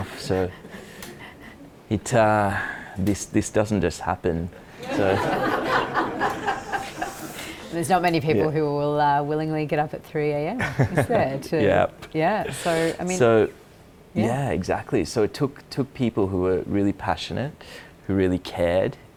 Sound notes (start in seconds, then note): 0.0 audience laughs; 4.8 audience laughs